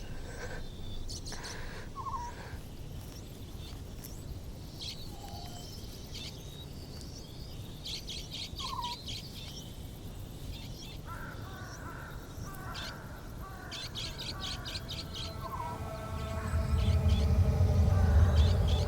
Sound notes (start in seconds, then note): 11.0 crows cawing; 15.7 surreal music